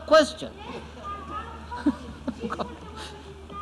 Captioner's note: laughs